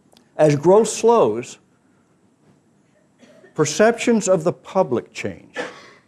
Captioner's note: cough